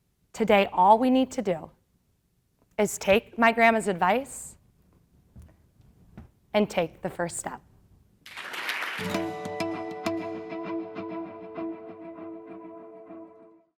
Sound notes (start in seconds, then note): 8.2 applause